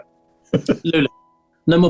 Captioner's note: chuckling